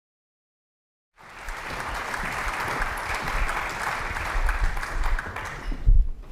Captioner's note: applause